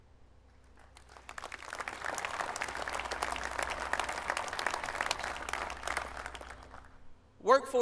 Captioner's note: applause